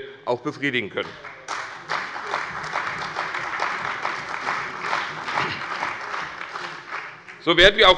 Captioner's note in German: Beifall bei der CDU und dem BÜNDNIS 90/DIE GRÜNEN